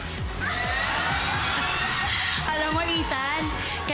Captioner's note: crowd cheering